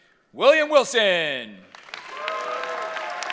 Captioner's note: cheering